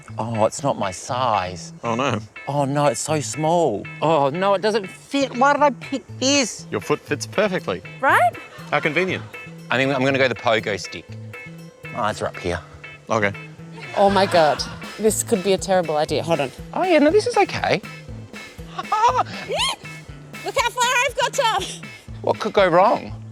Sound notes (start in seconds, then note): 19.3 squeals